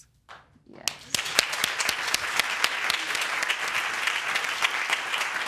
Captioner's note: audience applauding